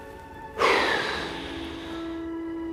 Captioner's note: sigh